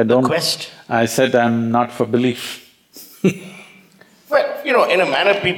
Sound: laughs

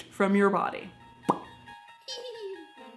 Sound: popping

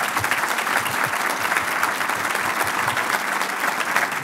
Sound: applauding

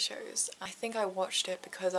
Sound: none

